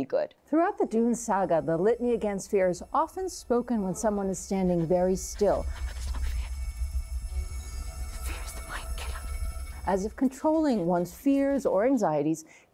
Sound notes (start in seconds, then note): 5.6 whispering